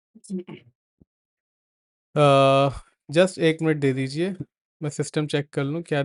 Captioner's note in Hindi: गला साफ़ करने की आवाज़